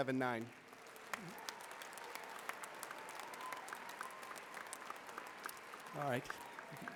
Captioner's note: applause